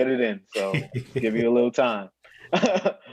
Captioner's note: laughs